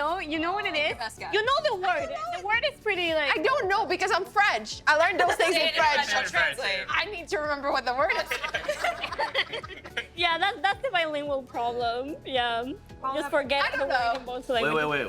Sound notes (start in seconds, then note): 8.3 all laughing